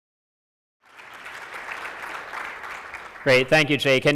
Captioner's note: audience clapping